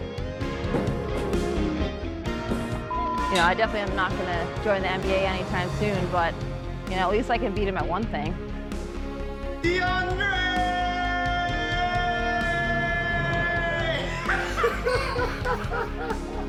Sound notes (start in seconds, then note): 12.3 both shouting; 13.9 laughing